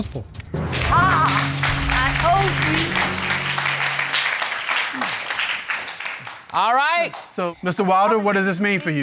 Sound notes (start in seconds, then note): 1.8 exclaims; 5.1 applauding